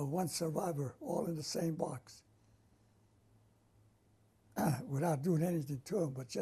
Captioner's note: pauses for 3 seconds